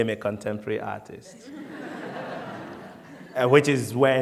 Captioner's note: laughter